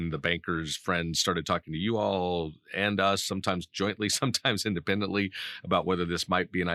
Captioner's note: laughing